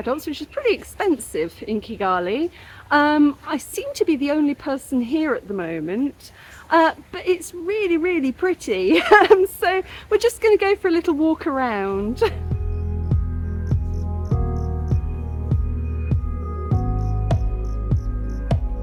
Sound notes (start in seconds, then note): 9.0 laughing; 13.4 chill music